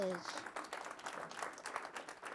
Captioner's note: applause